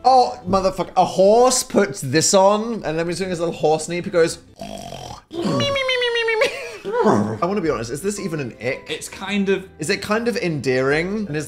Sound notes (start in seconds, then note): 4.6 snores; 6.9 Phil imitates horse